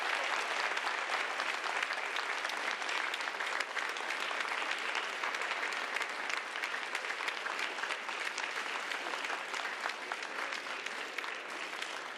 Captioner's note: applause